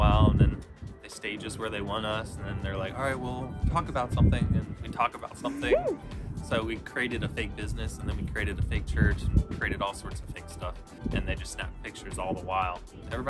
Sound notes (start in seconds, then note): 5.4 giggles